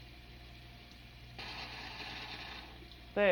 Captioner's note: hissing, rattling